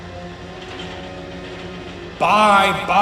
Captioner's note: TOBY rattling in fear